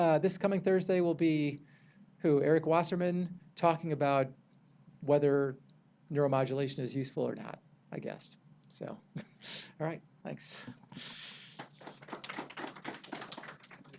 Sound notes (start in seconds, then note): 9.0 chuckles; 11.5 audience applauding